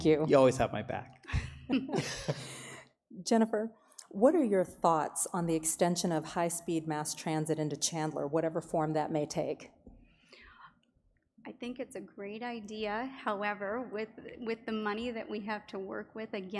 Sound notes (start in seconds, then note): 1.3 laugh